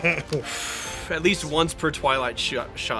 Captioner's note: exhales